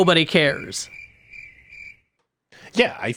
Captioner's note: crickets chirping